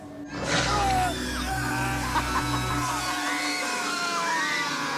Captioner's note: screaming